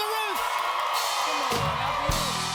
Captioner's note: cheers and applause